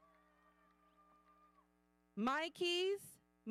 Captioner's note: audience cheering